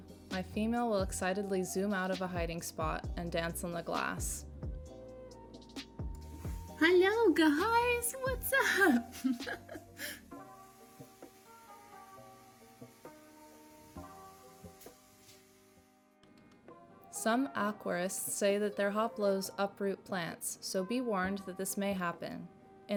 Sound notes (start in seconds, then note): 8.4 laughing